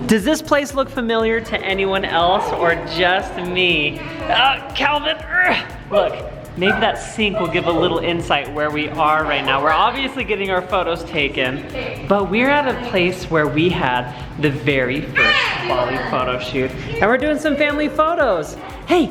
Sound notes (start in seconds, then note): 5.2 grunts